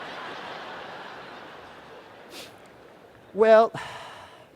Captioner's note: laughter